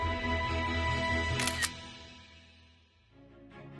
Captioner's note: camera shutter sound